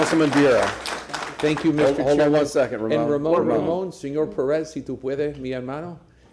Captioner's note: applause